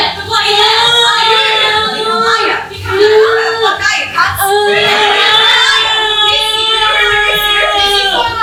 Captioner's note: pained screaming